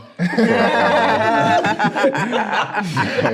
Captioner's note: all laughing